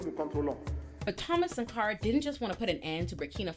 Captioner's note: speaking French